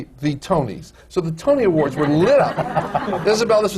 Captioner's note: laughter